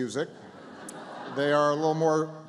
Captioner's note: laughter